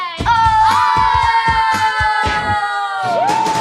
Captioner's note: crying